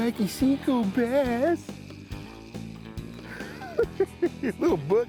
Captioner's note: chuckling